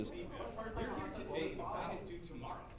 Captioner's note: audience chattering